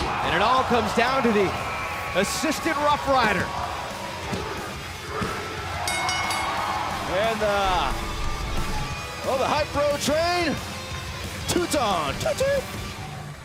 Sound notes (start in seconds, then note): 7.8 bell ringing